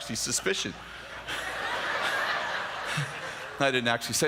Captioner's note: laughter